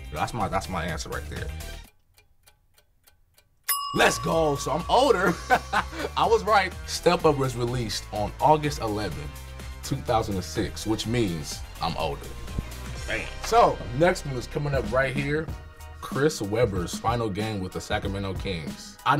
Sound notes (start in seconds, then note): 2.3 clock ticking